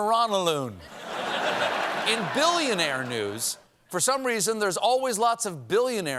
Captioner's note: laughter